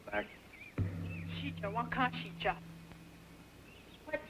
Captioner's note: speaks in Sioux